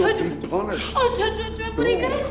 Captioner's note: crying